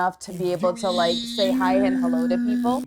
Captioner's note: vocalizes